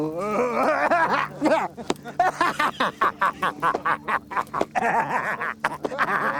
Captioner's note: laughs